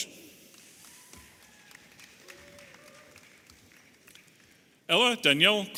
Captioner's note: audience applauding and cheering